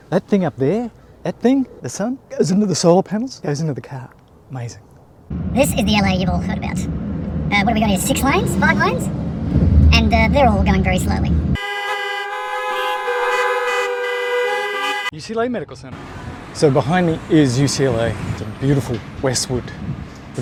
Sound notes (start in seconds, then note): 5.3 air rushing past; 11.7 cars honking